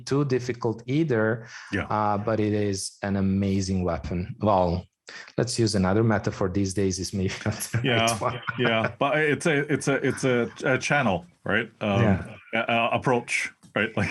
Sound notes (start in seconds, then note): 7.4 laugh